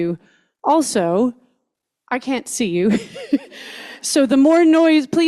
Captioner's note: laughs